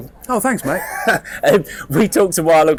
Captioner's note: laughs